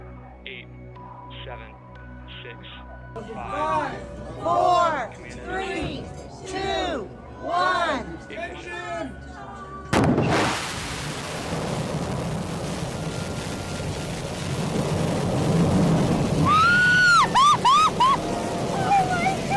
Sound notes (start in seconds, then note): 9.9 rocket firing; 17.2 squealing